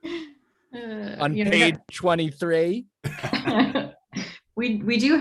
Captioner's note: group laughing